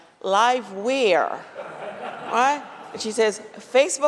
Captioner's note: laughter